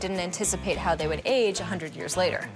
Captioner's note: none